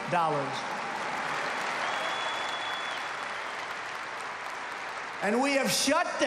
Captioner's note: applause